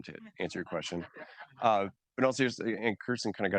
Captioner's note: audience laughing